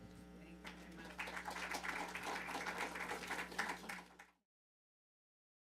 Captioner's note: attendees applauding